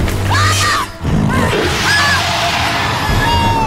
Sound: Snapjaw howls; dramatic music

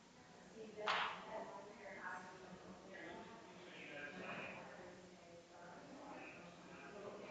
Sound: people chattering distantly continues

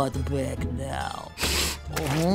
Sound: sniffing

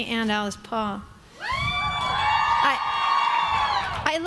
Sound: crowd cheering

